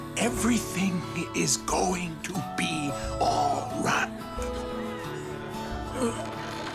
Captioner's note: gasps; gulps